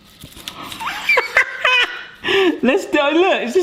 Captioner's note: laughs loudly